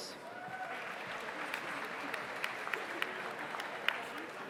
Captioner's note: audience applauds